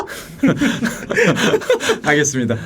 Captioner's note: laughing